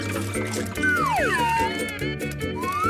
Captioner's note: whistle